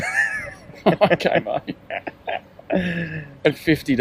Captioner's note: laughing